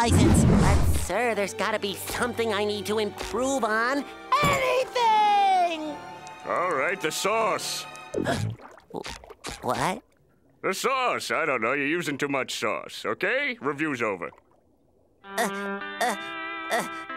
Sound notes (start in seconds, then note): 7.8 gasping; 14.9 grunting